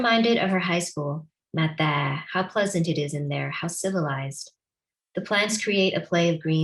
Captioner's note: non-english